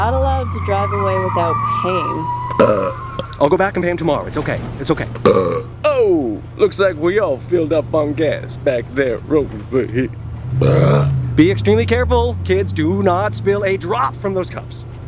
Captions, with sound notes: You're not allowed to drive away without paying. I'll go back and pay him tomorrow. It's ok. It's ok. (BURP) Ohh! Looks like we all filled up on gas back there, over here. Be extremely careful kids do not spill a drop from those cups.